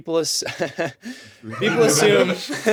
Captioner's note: chuckling